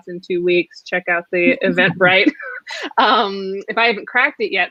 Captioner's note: laughing